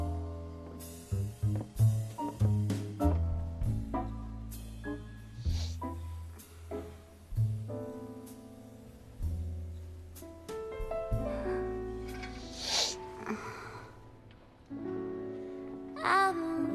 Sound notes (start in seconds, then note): 5.4 sniffles